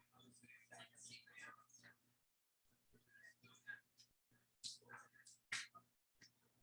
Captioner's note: people chattering indistinctly